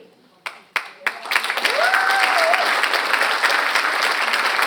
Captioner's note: audience applauds